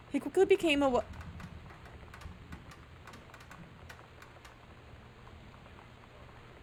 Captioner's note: loud Creaking / Doorknob Rattling Noise